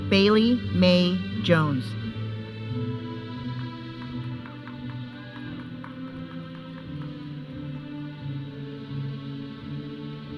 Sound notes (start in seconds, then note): 4.4 audience cheering; 7.1 processional music